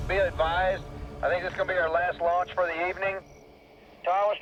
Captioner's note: over walkie